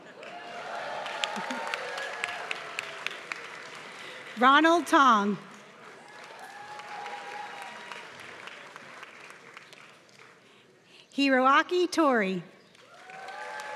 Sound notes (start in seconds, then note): 0.0 applause